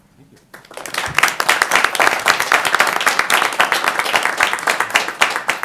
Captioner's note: applause